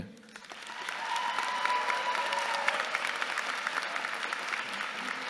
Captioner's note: audience cheering